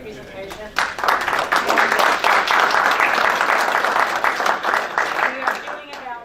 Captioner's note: clapping